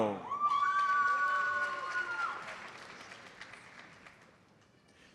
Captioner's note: audience cheers and applauds